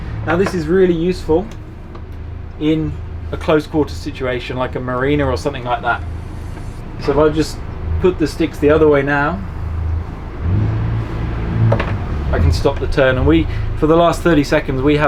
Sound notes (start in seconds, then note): 10.4 engine revving